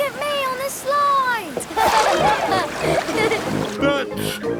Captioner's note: laughing